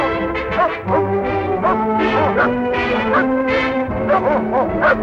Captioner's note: barking